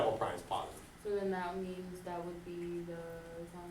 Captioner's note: voiceover